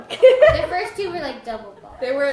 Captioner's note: laughs